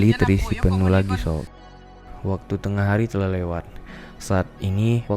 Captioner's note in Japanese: 嗚咽